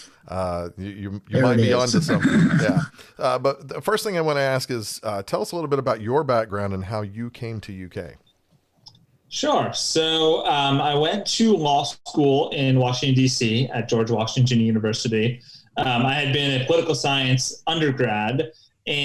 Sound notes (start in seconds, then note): 1.3 laughs